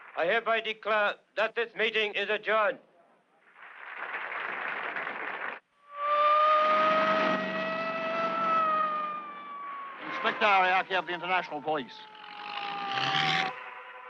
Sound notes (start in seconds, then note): 3.5 all applauding; 5.8 siren wailing